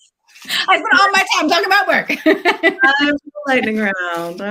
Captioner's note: laughs